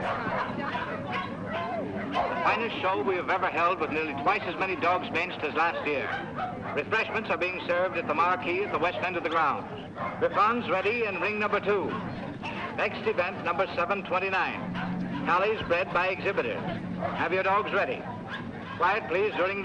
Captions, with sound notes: [people chattering and dogs barking] [man over P.A.] The finest show we have ever held, with nearly twice as many dogs as last year. Refreshments are being served at the marquee at the west end of the grounds. Bichons ready in ring number two. Next event, number 729 collies bred by exhibitors.